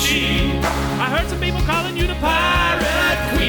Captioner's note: none